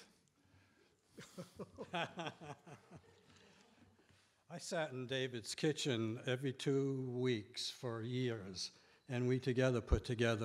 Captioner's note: laughing